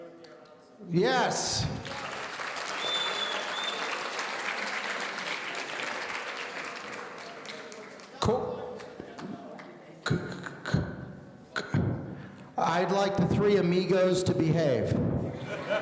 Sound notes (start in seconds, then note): 1.5 audience applauding; 15.2 audience laughing